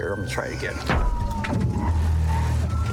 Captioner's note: thuds